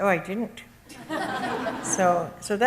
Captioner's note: audience laughs